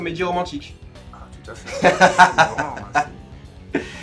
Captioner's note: does that laugh again